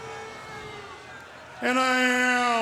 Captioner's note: audience booing